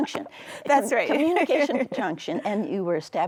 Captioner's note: laughs